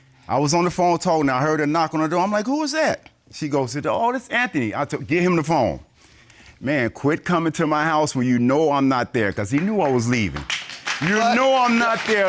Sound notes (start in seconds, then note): 9.5 audience applauds